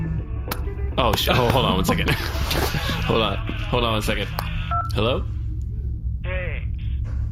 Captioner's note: phone rings